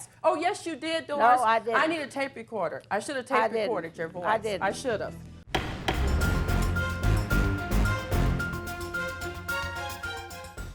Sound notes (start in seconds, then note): 5.4 dramatic music; 5.5 gavel bangs